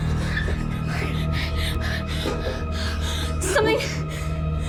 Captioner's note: Cindy gasping